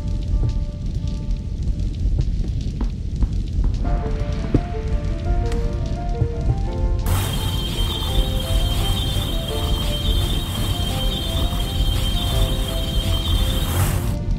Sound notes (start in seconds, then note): 7.0 energy Sounds